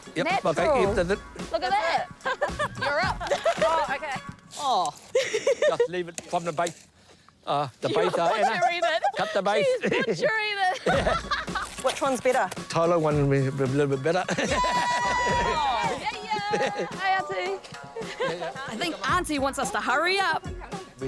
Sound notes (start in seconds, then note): 5.1 both laugh; 14.2 laughs